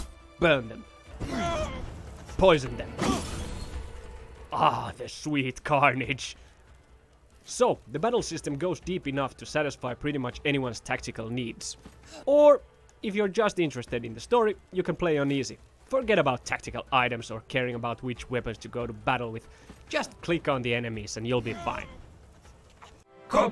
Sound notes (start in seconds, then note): 0.3 loud metal clanging; 1.2 man whines in pain; 4.6 vial breaking